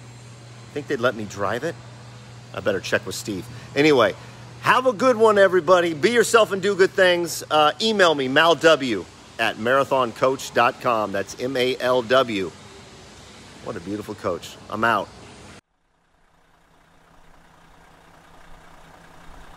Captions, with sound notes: I think they'd let me drive it, I better check with Steve. Anyway. Have a good one everybody. Be yourself and do good things. Email me Malw@marathoncoach.com. That's M A L W. What a beautiful coach. I'm out. (engine running)